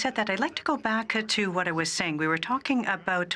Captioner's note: speaking French